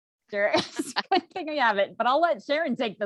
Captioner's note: laughs